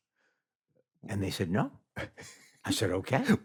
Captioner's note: chuckles